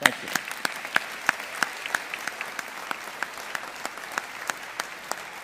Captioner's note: audience applauding